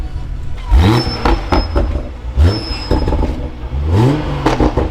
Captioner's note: engine revving